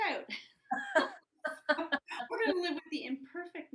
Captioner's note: both laugh